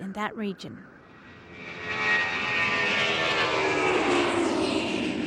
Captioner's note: airplane engines roaring